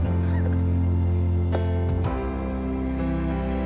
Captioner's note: Nicolas chuckles